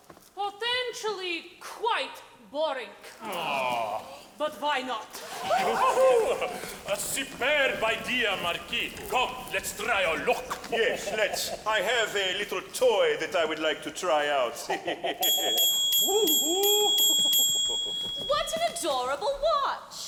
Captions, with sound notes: - Potentially, quite boring. - Aw! - But why not. - Whoo hoo hoo! - Superb idea Marquis, come let's try our luck. - Yes let's, I have a little toy that I would like to try out. (laughing) - Whoo hoo. (dinging) - What an adorable watch.